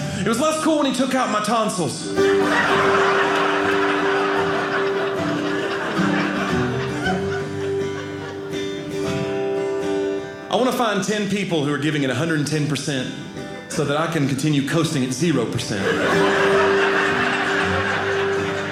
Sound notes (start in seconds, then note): 2.2 audience laughing; 6.0 guitar playing; 15.7 audience laughing; 18.4 guitar playing